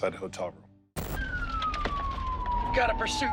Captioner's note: police sirens wailing